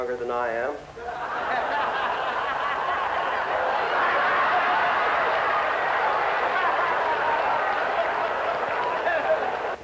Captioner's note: laughter